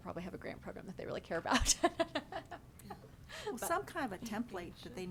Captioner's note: laughs